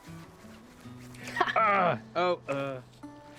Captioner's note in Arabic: آهات